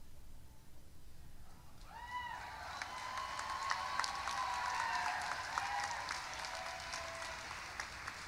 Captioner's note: cheering; applause